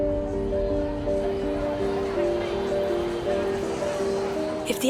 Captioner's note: multitud hablando